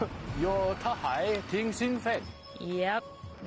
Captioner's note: speaking Mandarin